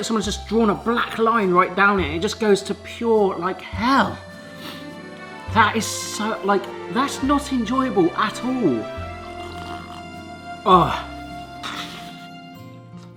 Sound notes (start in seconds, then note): 9.2 slurping; 11.6 sniffs